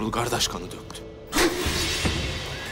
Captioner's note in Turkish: Tokat sesi